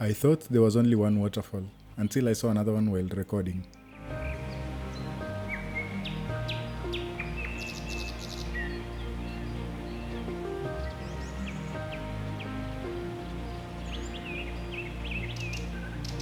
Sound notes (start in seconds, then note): 5.9 birds chirping; 14.6 water rushing